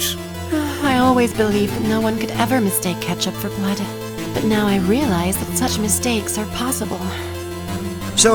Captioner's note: sigh